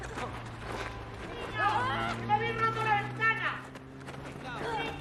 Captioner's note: wanita berteriak dalam bahasa spanyol